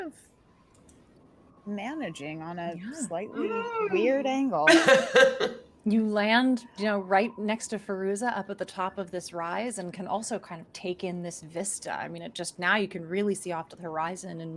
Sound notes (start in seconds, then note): 4.6 laughs